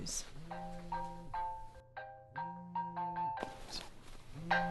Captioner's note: mobile phone rings